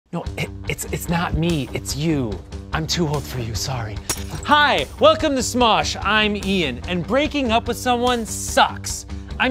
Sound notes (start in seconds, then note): 2.1 upbeat music; 4.0 glass smashing